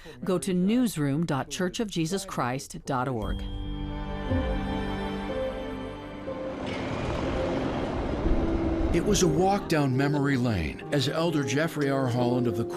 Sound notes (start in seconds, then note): 3.5 gentle music; 6.3 train rumbling